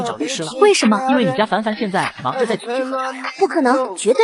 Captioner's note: laughing